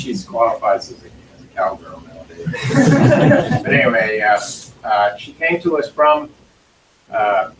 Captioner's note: laughter